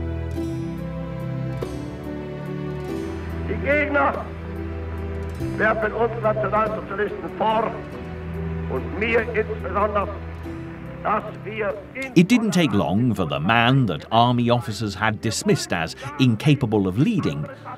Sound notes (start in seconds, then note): 3.4 German spoken audio